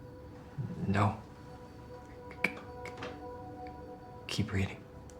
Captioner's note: stuttering